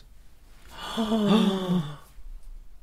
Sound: gasp Of Delight

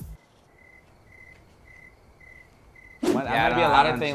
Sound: crickets chirping

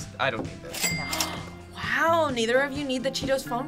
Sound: gasps

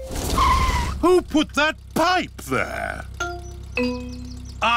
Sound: tires screech

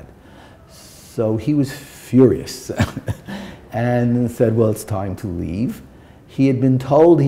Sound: chuckle

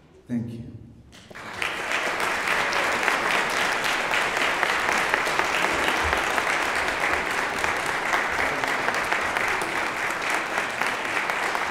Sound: applause

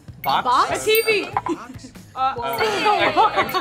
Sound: bell rings

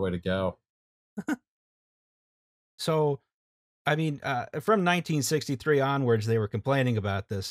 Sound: laughter

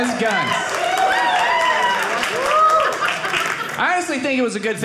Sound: audience applauding

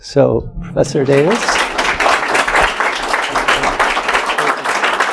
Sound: applause

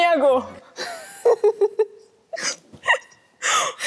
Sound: ends up laughing

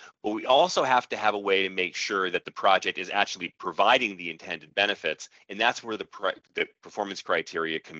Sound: audio skips forward

